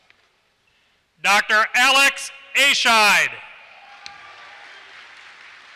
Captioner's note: applause